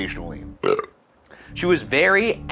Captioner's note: burps